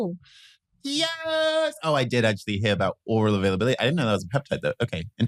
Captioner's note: he cheers